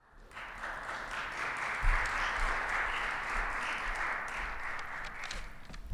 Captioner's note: applause